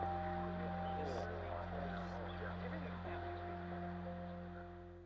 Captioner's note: people talking in background